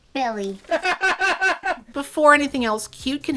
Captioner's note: bursts out laughing